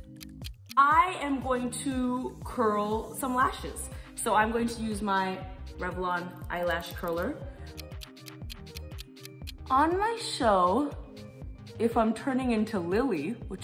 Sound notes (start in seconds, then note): 7.6 clock ticking